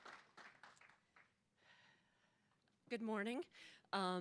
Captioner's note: applause